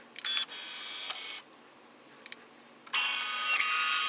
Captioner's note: machine whirring